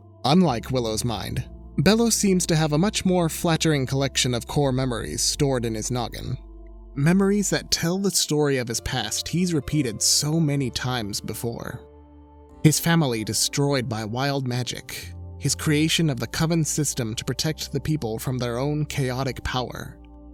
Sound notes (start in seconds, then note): none